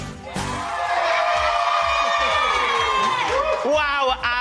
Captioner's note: cheering